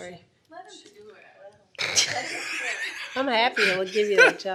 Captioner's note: laughing